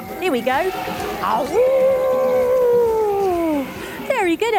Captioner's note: mimicking the trumpet of an elephant